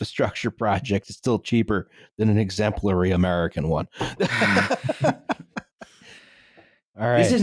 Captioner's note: laughs